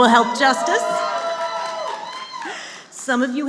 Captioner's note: cheering